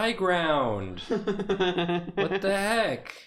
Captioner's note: laughs